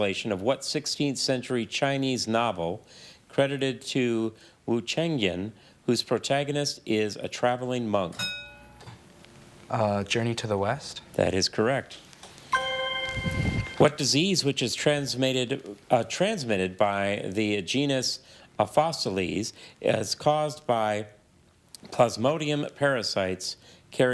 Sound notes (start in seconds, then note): 8.2 bell dings; 12.5 chime resonating